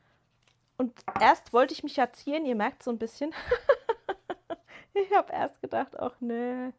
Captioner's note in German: gelächter